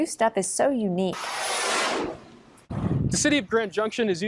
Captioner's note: dramatic sound